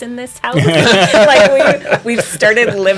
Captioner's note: laughter